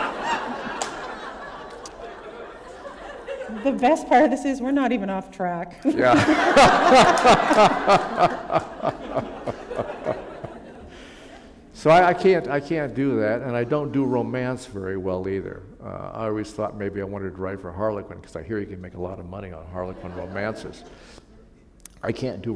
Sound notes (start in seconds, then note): 9.1 laughter